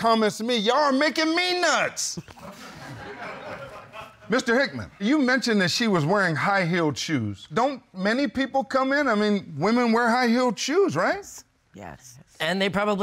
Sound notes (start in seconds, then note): 3.9 audience laughing